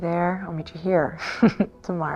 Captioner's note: chuckles